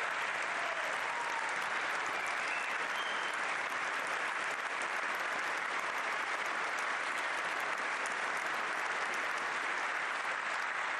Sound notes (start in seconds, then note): 3.1 applause